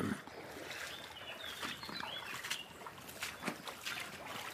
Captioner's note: water splashes